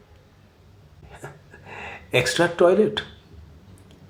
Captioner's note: chuckles